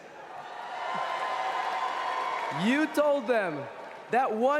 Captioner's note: cheering